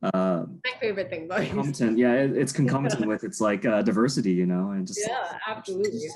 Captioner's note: laughs